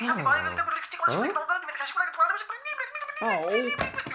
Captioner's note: tape Fast-Forwards